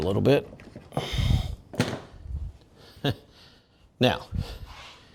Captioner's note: silence